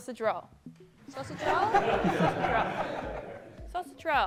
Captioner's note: laughter